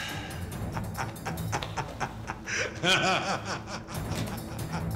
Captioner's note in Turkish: Gülüyor